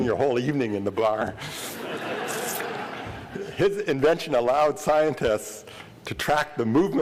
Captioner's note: laughter